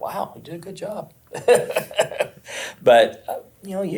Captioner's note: he laughs